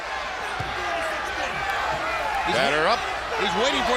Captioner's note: crowd chatter